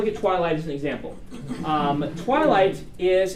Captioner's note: students laugh